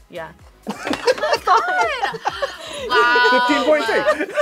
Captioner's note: React laughs; gasps